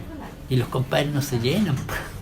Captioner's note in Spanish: ríe